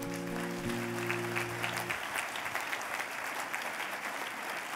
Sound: applause

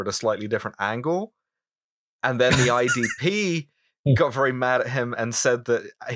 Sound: laughter

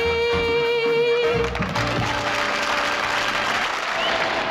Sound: crowd applauding

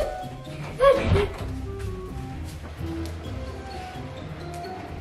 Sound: door clunking

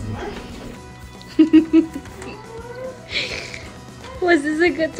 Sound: giggling

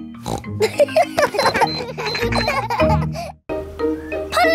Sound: snorts; kids laughing

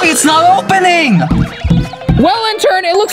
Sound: chest thuds

